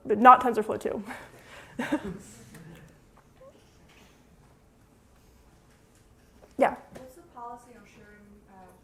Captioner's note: laughter